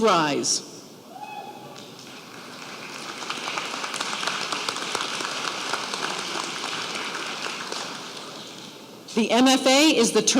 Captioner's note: applause